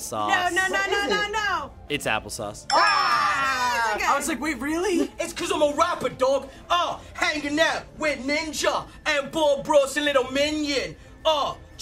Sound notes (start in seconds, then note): 5.2 "English" accent